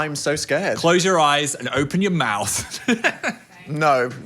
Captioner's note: laughs